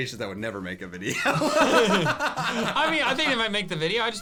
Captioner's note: laughing